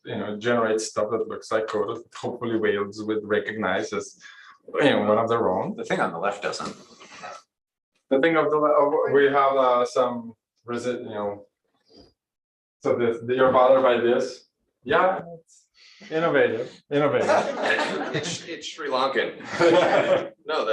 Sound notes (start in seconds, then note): 17.2 laughter